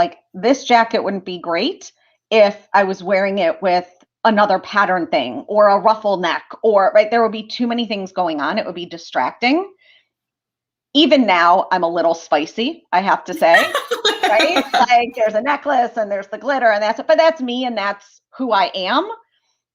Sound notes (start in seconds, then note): 13.3 laughter